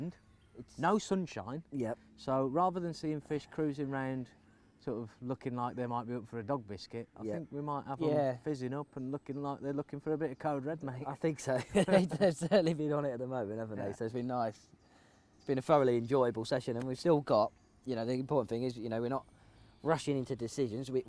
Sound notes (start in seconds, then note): 11.5 laughs